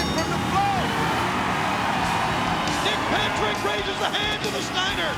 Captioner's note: applause